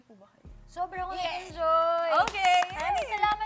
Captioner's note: claps